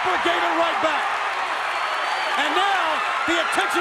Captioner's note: applause